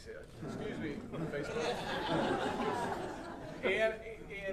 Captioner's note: audience laughing